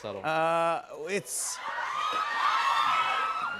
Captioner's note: cheers and applause